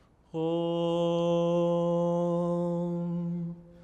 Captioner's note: reciting in sanskrit